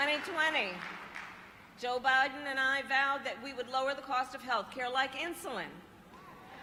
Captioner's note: applause